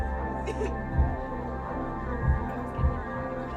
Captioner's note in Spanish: Sollozos